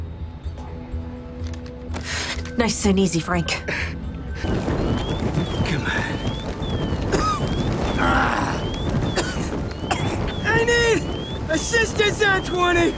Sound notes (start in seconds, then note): 6.1 coughs